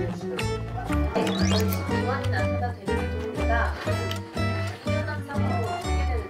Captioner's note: The sound of the room is only the sound of TV and the sound of chewing